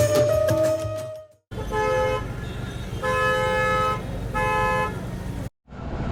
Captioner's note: traffic noise